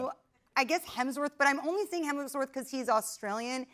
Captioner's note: none